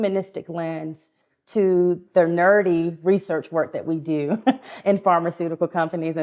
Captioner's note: laughs